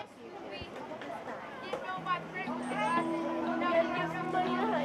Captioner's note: kids chattering